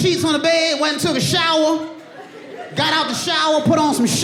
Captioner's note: audience laughing